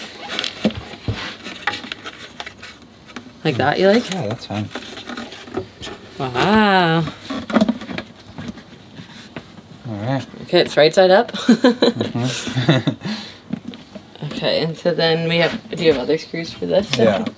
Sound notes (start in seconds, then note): 11.4 laughing